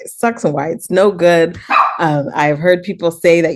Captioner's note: dog barks